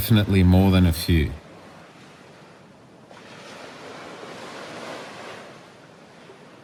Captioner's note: wind